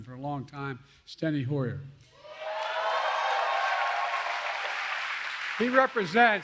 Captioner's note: applause